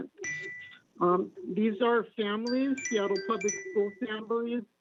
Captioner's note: chime